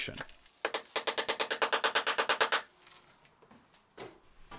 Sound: hammering nails into bottom plate

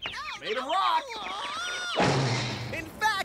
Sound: <i> groans</i>

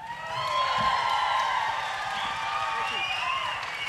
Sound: audience cheering and applauding

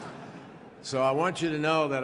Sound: laughter

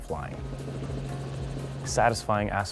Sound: helicopter sounds

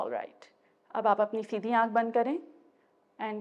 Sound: in Urdu

